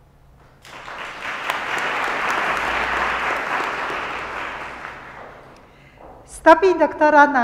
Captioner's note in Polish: oklaski